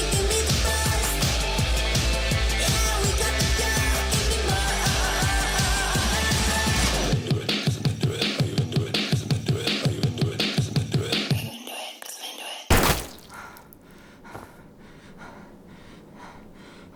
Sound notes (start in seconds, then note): 12.7 gun fires